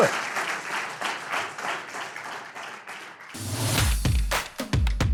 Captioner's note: audience applause